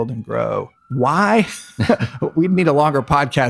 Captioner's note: laughs